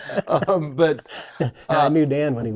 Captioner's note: doctors chuckle